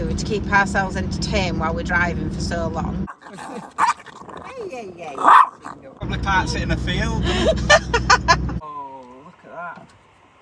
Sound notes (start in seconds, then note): 7.0 laughing